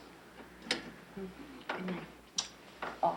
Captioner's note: light clicks off